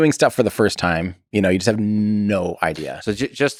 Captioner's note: Tim laughs